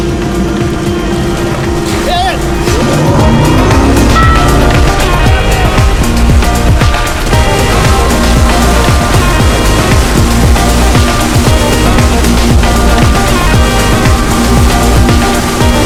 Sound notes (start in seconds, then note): 3.5 upbeat music; 8.0 water splashing